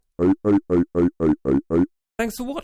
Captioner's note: Hammer 1 bot making noises